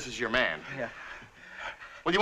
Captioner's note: breathing heavily